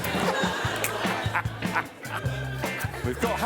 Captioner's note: laughter